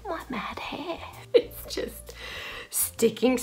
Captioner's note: laughs